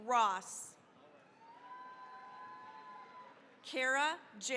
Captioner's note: cheering, applause